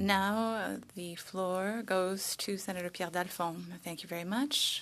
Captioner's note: speaking French